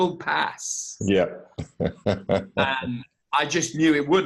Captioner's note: laughs